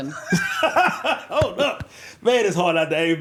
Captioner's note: laughing